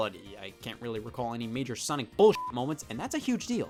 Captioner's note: beep